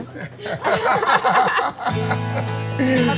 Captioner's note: laughter